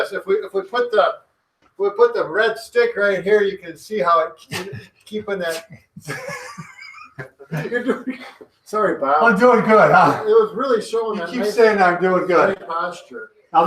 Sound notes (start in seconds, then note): 6.1 laughing